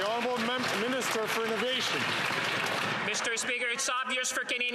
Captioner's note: some Applause